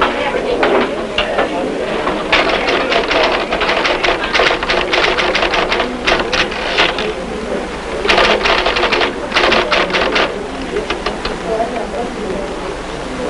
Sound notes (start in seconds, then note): 2.2 typewriter clacking